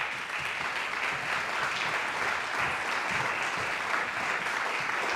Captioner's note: audience applauding